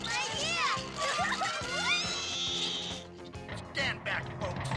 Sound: giggles and whoops

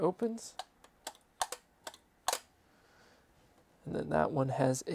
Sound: metal clicking

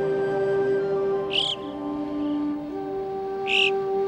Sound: bird chirps

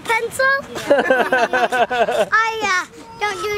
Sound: everyone laughing

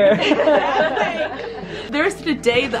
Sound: laughing

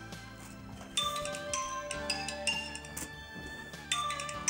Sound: phone chimes

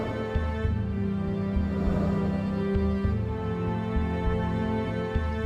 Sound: footsteps

